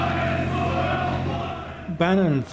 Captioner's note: crowd; crowd shouting